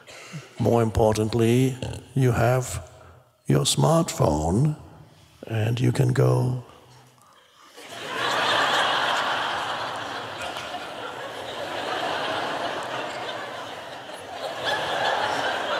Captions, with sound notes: more importantly, you have your smartphone, and you can go, (crowd laughs).